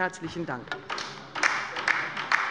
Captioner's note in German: Beifall bei der LINKEN